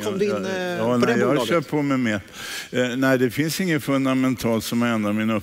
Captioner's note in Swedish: none